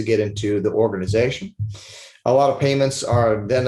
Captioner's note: sniffles